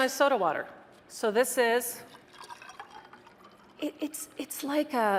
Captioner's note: water spluttering